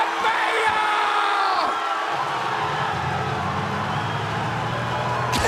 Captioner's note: crowd cheering